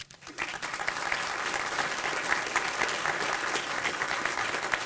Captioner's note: applause